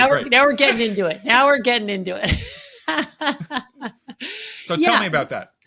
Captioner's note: chuckles